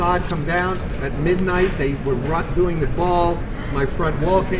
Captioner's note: wrecking